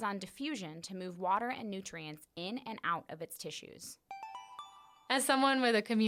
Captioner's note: chime